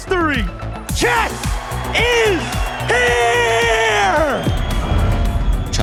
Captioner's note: crowd cheering, applauding